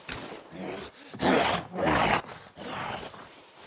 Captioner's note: zombie growling